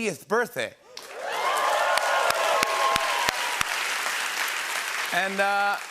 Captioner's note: cheering and applause